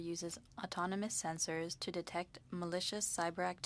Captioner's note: speaking French